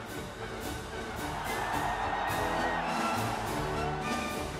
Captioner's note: crowd cheering